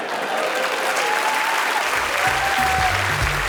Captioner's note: audience laughs; audience applauding; upbeat jazzy music